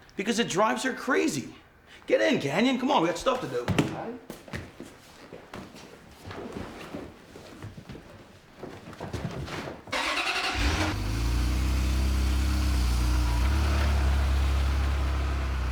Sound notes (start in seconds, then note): 9.9 engine cranking; 10.0 engine rumbling